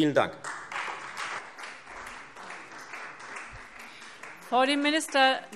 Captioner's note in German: Beifall Freie Demokraten und vereinzelt SPD